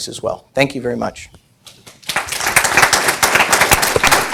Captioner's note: applause